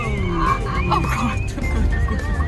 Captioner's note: laughs